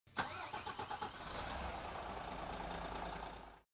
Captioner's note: ignition starting